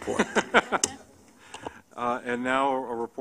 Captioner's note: laughter